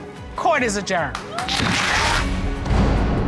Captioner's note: audience cheering and applauding